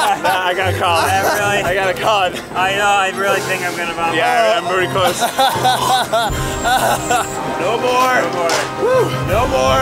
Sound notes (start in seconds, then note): 4.9 Eugene laughing